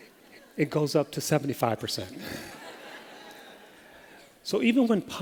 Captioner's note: laughter